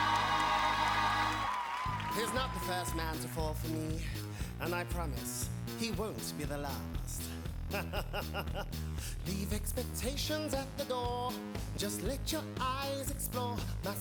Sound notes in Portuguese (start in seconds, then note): 0.0 audience cheering and applauding; 7.8 laughs